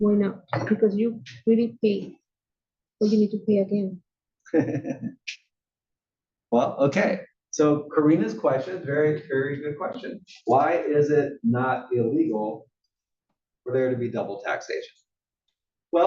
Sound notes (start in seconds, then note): 7.9 laugh